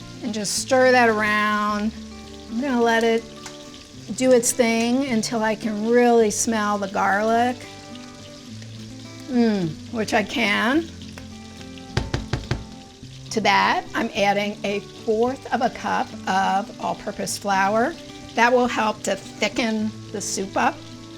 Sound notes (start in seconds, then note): 7.8 butter sizzling; 11.9 spatula tapping softly